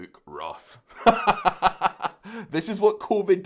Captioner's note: laughing